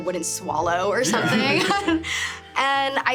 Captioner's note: laughs